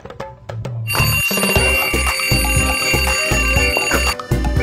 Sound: alarm ringing

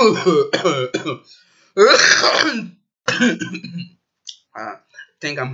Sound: coughing

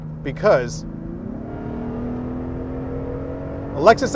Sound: exhaust roaring

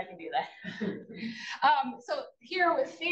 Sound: attendees chuckle

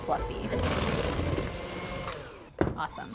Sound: beaters clanging

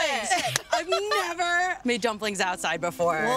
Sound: laughing

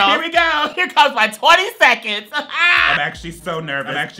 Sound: laughs

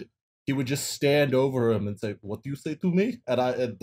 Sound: bad Russian accent

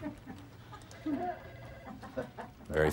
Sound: laughter; telephone ringing

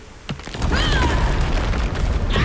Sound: yells; screams

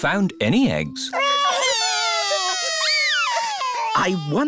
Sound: wailing

